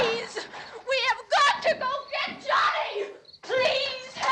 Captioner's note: screaming